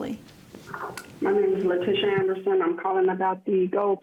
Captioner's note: recorded Message